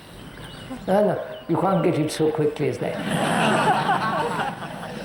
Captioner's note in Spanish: Risas